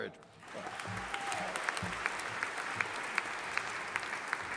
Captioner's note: audience applauding